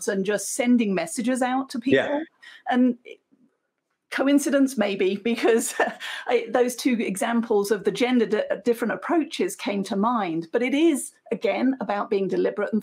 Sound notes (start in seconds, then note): 5.2 chuckles